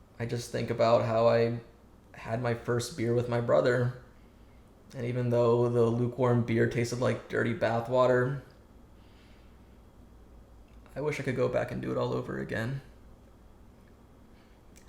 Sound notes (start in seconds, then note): none